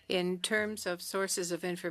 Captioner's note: speaking French